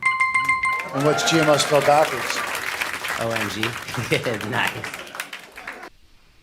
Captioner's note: laughs